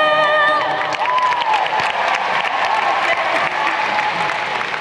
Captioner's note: crowd cheering